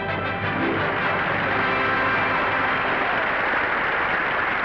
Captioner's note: audience applauding